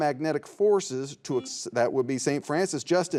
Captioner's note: buzzer buzzes